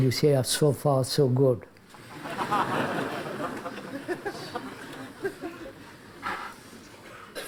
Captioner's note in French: rires